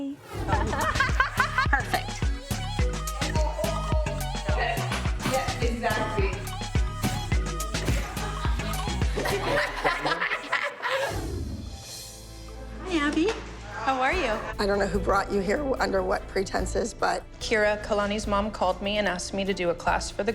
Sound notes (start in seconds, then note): 0.4 laughing; 4.4 indistinct chatter; 9.3 all laughing